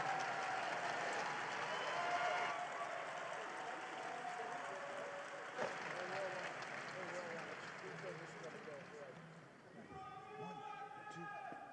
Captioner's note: cheering and applause